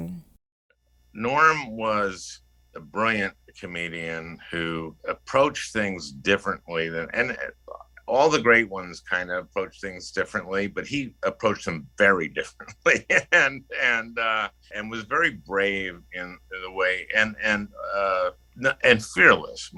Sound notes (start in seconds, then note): 12.6 laughter